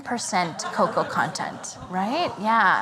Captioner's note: laughter